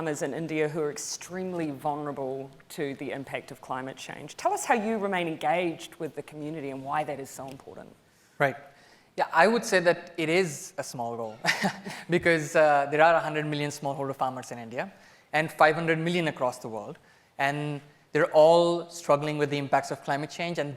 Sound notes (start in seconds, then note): 11.7 laughs